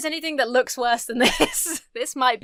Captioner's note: chuckles